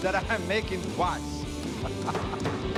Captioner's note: laughs; banging